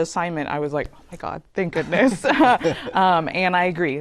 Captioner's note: laughter